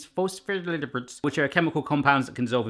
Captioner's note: speaks gibberish